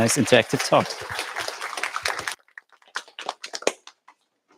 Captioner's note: applause